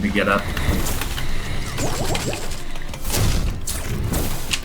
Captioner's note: shooting game effect